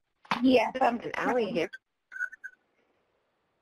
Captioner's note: women talking